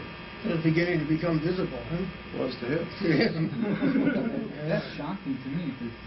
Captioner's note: laughter